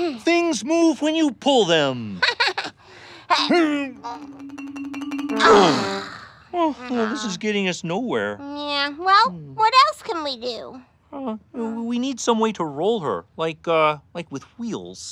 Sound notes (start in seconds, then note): 3.2 grunting; 5.4 sighing